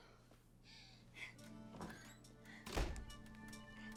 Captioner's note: woman whimpers